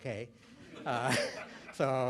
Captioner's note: laughter